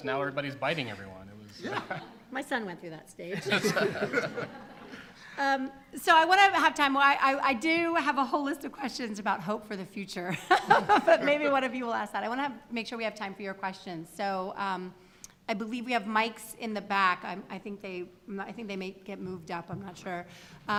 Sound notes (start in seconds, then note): 3.3 laughter; 10.6 laughs